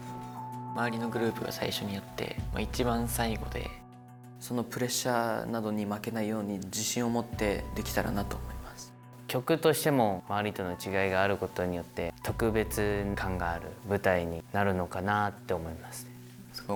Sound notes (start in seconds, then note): none